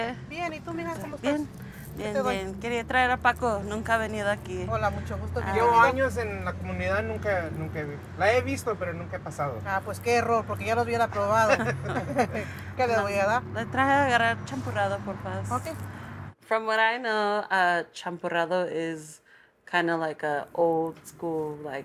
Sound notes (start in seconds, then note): 0.2 foreign language; 13.4 foreign language